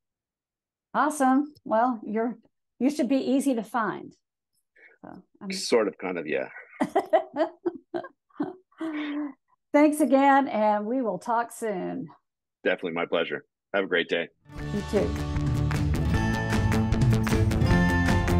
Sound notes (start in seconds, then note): 6.6 laughing; 14.5 lively music